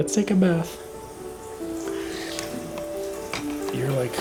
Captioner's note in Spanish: Agua corriente